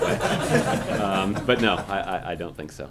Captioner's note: laughter